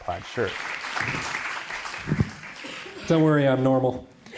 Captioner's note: crowd applause